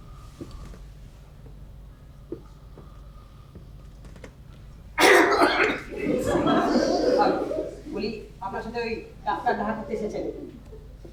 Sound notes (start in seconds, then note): 5.0 Jagannath coughs loudly